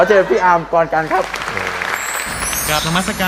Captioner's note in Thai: เสียงปรบมือ